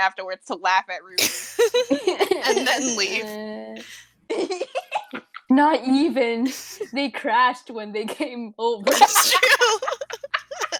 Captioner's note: laughing